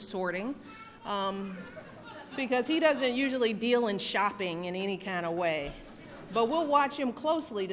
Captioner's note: laughter